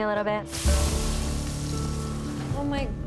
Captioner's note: pan sizzles